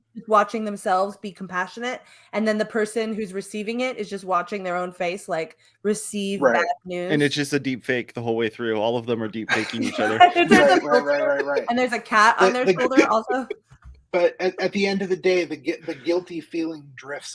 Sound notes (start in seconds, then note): 12.6 laughs; 14.2 laughs